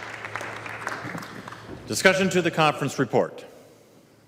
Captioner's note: applause